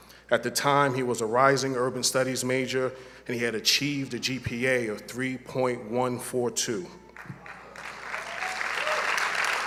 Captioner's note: applause